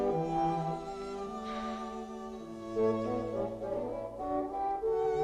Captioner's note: Hundra sighs